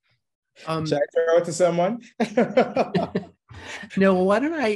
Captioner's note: laughing